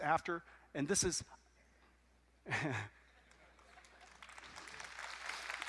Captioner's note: applause